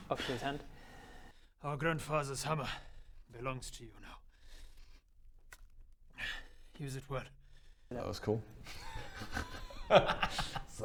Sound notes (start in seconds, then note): 6.2 sigh; 8.6 laughs